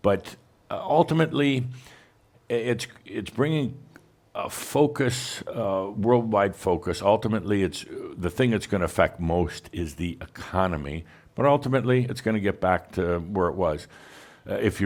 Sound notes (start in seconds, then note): none